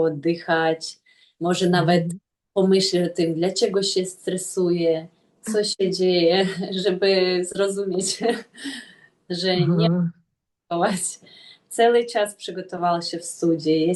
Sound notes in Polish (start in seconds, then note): 6.4 śmiech